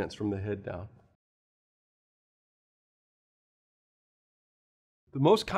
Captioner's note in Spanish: Sin audio